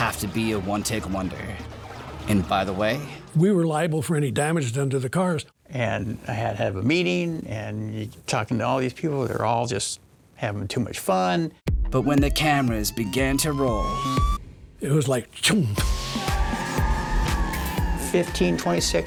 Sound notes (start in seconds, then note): 12.3 siren wailing; 17.2 tires screeching